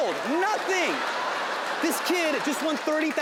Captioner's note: audience laughing